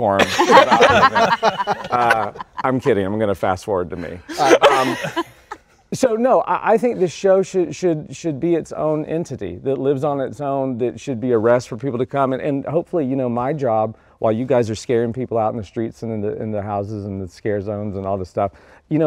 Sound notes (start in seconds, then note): 0.2 all laughing